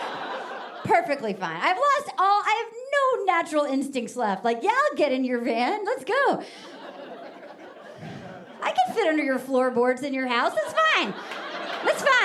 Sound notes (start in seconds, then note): 6.5 audience laughing